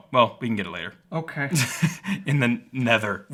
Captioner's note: laughing